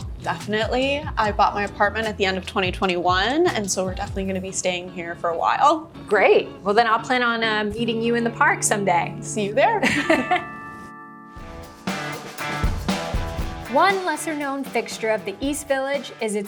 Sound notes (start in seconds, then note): 9.8 chuckles; 11.3 upbeat music